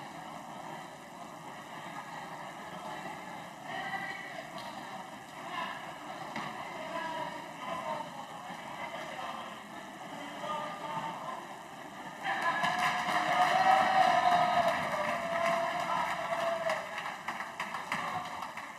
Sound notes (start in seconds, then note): 6.8 crowd Noise